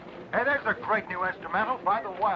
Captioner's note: radio Announcer